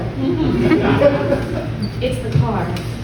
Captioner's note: giggles